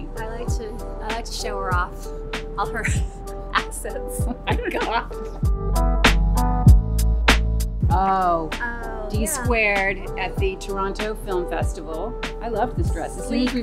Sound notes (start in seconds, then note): 4.2 giggles